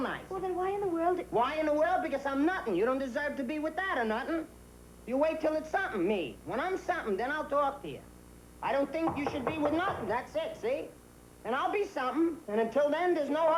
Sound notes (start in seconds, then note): 8.9 knock on door